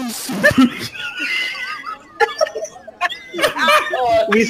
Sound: wHEEZING

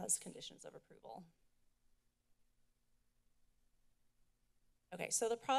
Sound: silence

